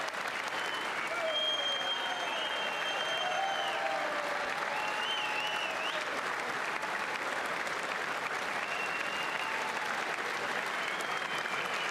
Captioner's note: applause